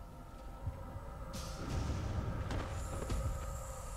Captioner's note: loud boom